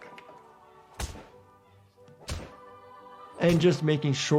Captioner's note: object thumping